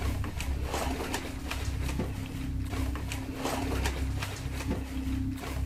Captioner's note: bin shaking and rustling